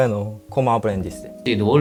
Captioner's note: Spanish